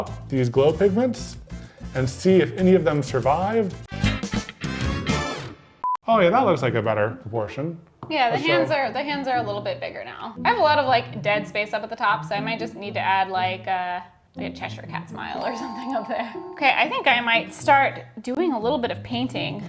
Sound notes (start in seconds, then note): 4.3 upbeat music; 6.3 screen beeps